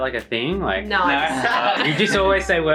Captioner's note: laughs